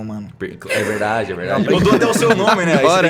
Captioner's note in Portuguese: risada